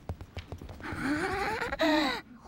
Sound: giggling excitedly

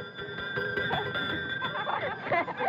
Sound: bell Tolling

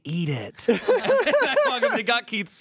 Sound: everyone laughs

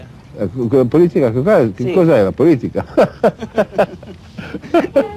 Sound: laughing

